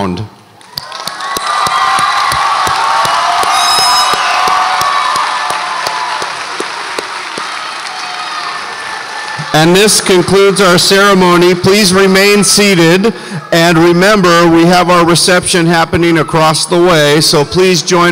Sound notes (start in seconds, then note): 1.2 audience applauds and cheers